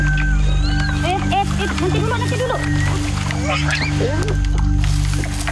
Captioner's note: in foreign language